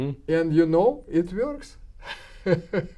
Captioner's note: laughs